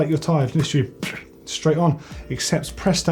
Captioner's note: puffs